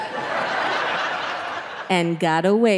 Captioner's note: audience laughing